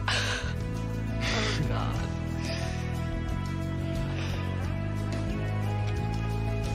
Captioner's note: laughs